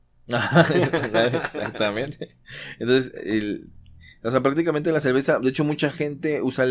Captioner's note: laughs